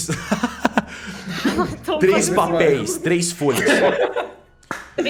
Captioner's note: laughing